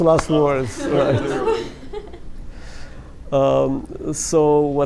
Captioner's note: laughter